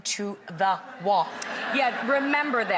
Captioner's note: audience laughs